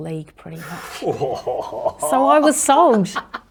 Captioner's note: laughs